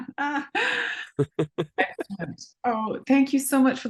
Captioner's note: laughs